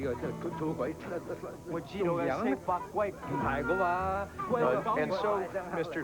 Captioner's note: speaking Cantonese